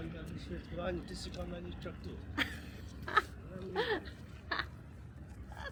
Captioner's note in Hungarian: nevetés